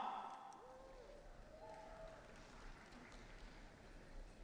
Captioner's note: audience cheering